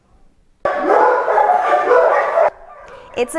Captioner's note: barking